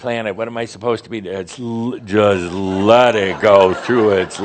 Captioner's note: laughter, as Adamus uses a whiny voice